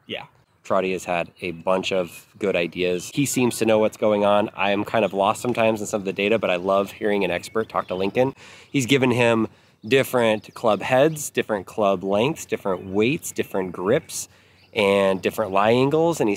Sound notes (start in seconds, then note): none